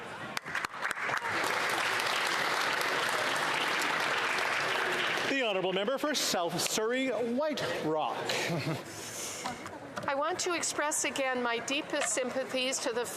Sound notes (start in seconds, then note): 4.2 some Applause